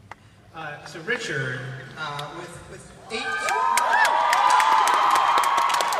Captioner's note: crowd cheering